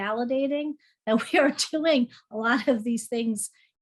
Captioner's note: laughs